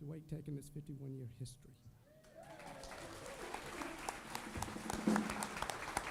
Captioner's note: applause